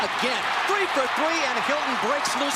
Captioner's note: cheering